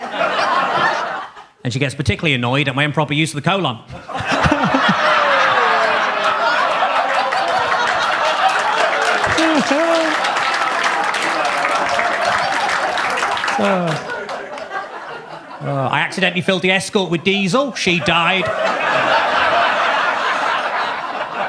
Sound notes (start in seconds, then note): 0.0 audience laughs; 4.7 laughs; 5.2 audience laughs; 5.5 audience claps; 18.6 audience laughs